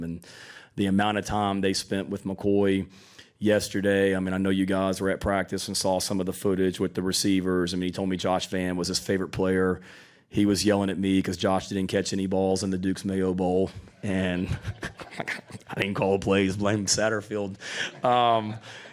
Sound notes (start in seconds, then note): 14.2 laughs